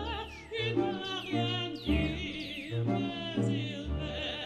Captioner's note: birds chirping